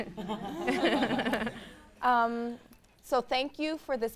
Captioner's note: panel laughs